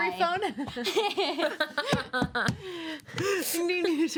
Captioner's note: women laugh